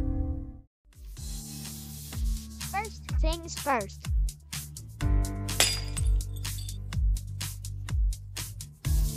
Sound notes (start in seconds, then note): 5.5 shatter